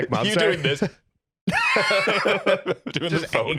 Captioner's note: laugh